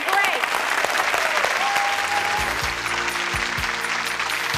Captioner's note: clapping